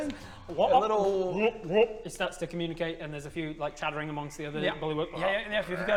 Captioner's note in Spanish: Ribbit